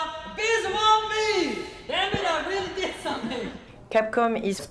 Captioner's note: chuckling